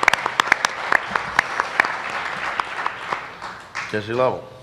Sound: applause

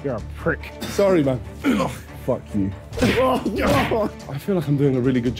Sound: punching sounds

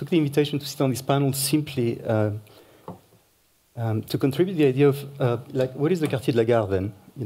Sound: french

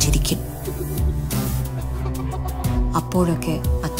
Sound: brother laughing

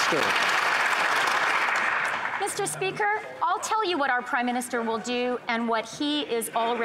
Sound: some Applause

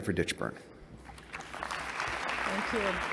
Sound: applause

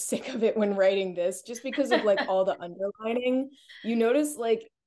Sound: laughs

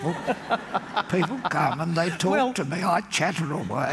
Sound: laughter

